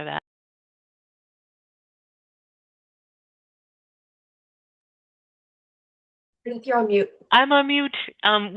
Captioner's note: pause